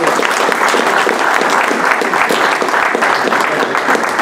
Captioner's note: applause